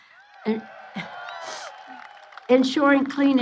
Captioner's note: applause